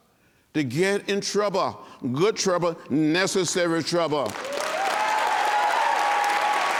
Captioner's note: applause and cheering